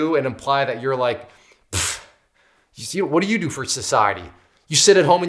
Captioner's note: puffs